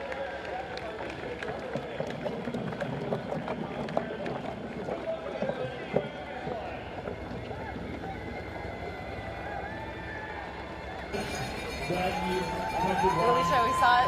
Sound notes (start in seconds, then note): 1.8 horn; 4.5 applause